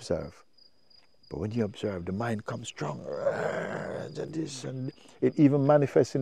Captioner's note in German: brüllt